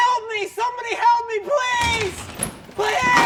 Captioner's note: door opens and closes